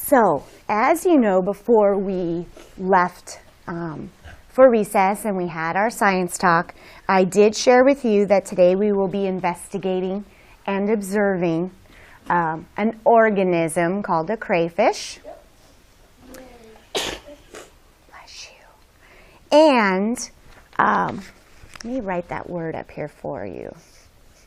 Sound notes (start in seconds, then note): 16.4 student sneezes; 18.2 whispering